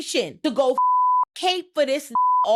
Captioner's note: beep